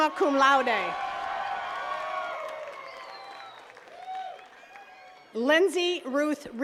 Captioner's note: attendees cheering and clapping